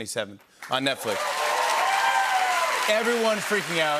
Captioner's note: cheers and applause